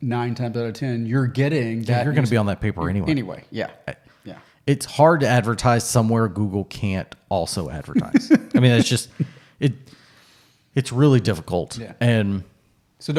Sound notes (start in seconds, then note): 7.9 laughs